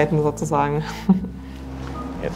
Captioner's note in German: Lacht